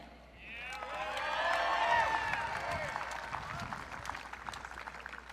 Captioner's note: audience cheering